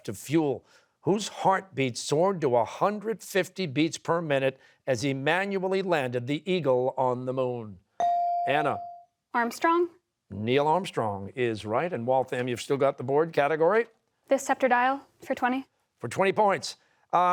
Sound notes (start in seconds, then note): none